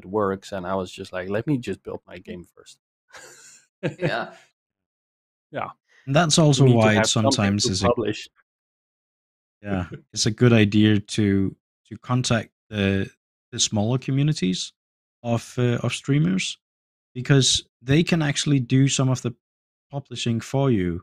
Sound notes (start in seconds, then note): 3.2 laughs; 9.7 laughs